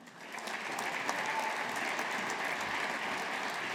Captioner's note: audience applauding